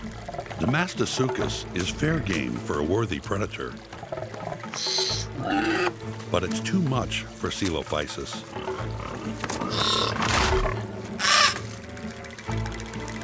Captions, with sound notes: Demastosuchus is fair game for a worthy predator... [Coelophysis squawks] [Demastosuchus roars] But it's too much for Coelophysis.